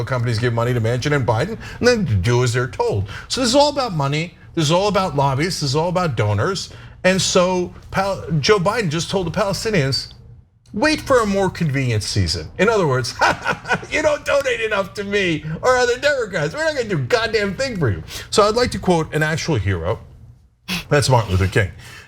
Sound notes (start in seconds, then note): 13.2 laugh